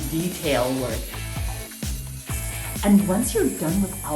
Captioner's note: drill buzzing